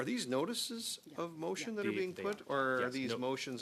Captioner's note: speaking French